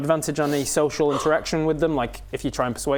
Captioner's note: gasp